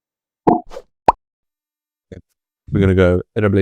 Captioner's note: bubble pops